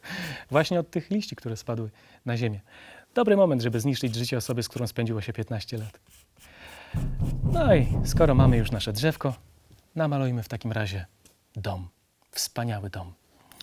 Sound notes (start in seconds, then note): 6.9 more knocking noises